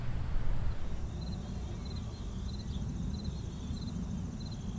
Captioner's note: nature sounds